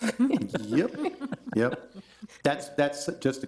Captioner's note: board members laughing